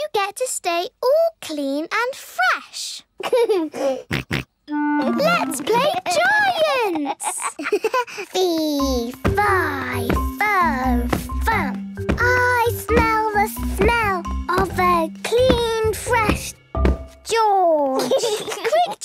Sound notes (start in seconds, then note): 3.2 giggles, snorts; 6.8 giggles